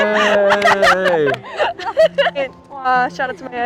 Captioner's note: laughing